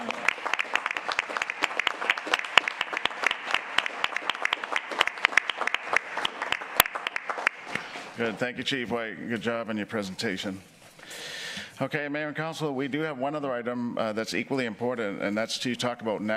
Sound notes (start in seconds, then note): 3.8 applause